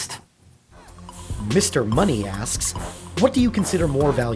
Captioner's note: voiceover